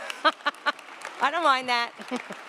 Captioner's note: laughing